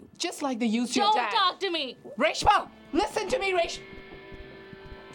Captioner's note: none